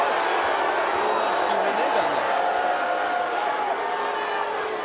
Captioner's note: audience jeers